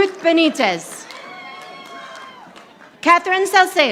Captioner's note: audience applauding